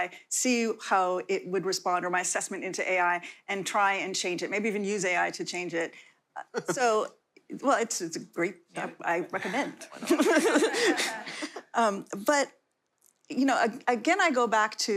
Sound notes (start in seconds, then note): 9.8 laughter